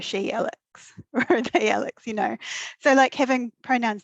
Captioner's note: laughing